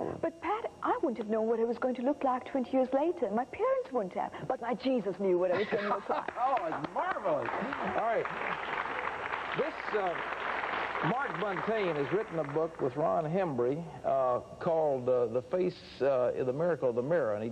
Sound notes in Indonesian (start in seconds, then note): 7.0 Tertawa; 8.7 Tepuk tangan